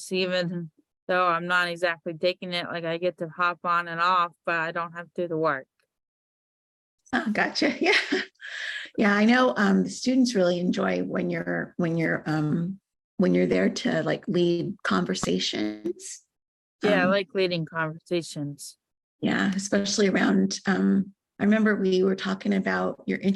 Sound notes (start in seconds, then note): 7.8 chuckles